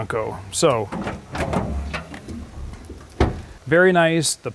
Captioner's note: car rear lower tailgate opens